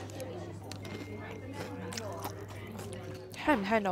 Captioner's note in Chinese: 脆脆的聲音